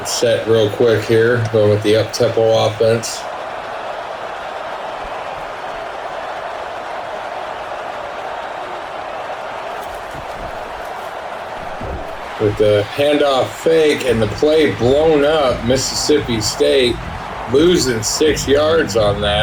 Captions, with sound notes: It's set real quick here with the up temple offense. [Crowd Noises] With the handoff fake and the play blown up Mississippi State losing six yards on that.